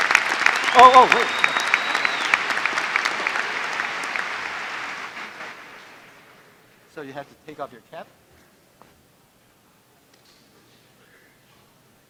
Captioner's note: applause; applause